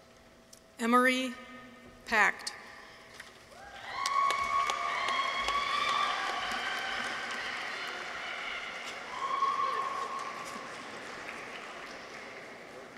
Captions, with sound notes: Emory Pacht. -(audience applauds) -(people cheer)